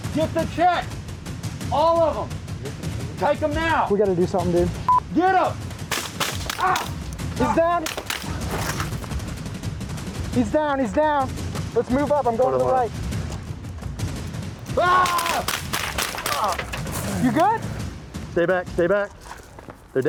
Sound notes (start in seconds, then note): 5.8 gun firing; 7.3 grunting; 8.1 gun firing; 14.7 gun firing; 14.7 man yelling